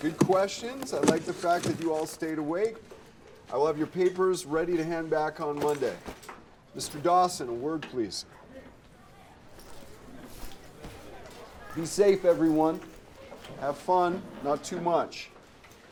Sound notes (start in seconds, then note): 9.8 students chattering